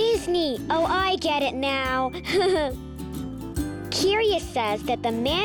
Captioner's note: laughs